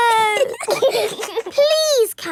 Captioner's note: giggling